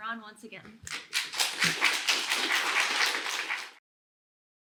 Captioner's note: applause